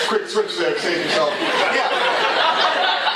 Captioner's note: laughter